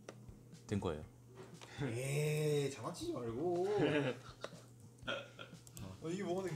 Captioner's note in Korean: 웃음